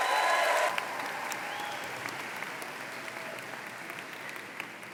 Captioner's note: applause